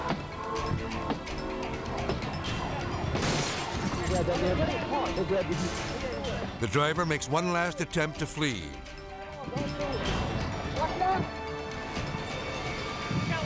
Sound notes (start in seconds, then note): 0.2 dramatic music; 3.2 glass shatters